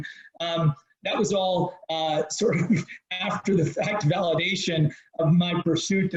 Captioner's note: chuckles